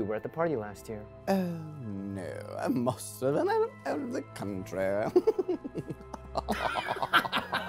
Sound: nervous laughter

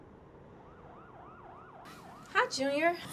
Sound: sirens

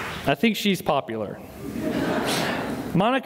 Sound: laughter

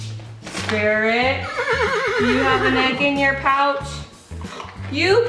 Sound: neighing

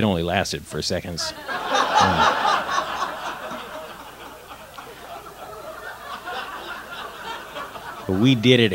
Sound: laughter

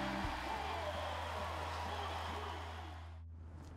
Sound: crowd cheering

